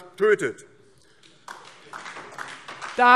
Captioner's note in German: Beifall DIE LINKE